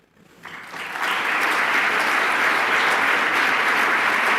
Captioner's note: applause